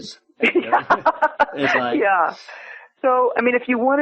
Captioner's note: laughs